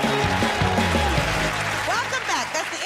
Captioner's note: cheers and applause